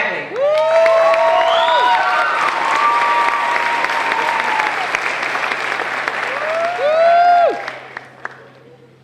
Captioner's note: crowd cheering